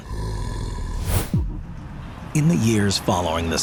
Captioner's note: creature growls